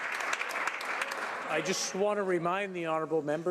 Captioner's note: applause